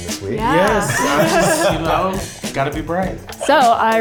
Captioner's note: everyone laughs